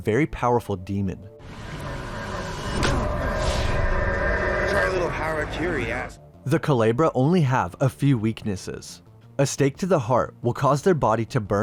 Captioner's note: weird speaking